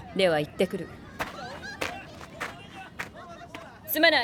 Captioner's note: footsteps on sand